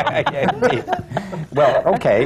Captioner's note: laughter